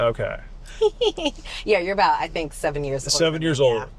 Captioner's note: laughs